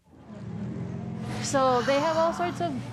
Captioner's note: car engine revving